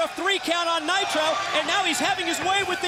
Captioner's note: crowd cheering